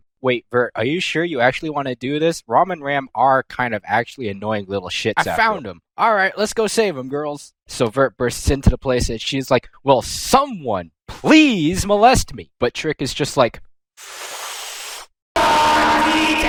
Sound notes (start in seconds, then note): 14.0 inhale #2